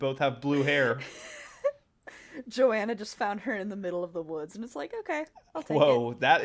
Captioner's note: laughs